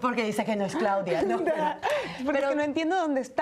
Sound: Risas

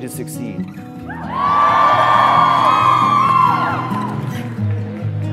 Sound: crowd cheering

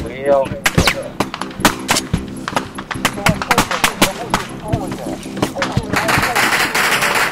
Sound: radio exchange

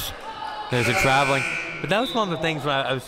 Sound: buzzer sounding

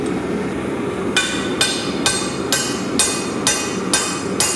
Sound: metal clanging

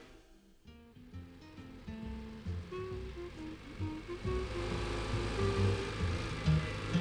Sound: jazzy upbeat music; car engine puttering

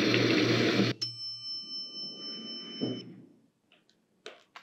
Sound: alarm sound; door opening sound

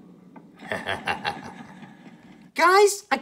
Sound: Ganondorf chuckles evilly

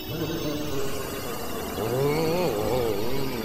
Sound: electric whirring, grumbles; grumbles

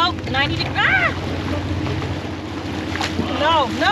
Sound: fish splashing

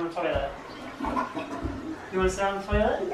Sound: toilet flushes

